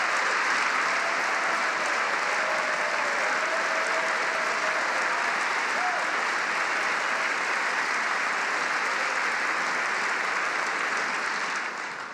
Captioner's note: applause